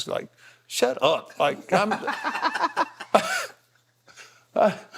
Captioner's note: Cody laughing